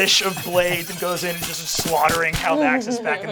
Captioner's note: beeping; knives slicing